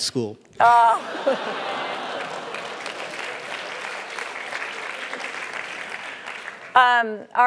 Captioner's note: laugh; applause